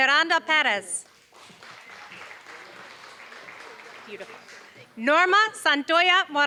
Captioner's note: applause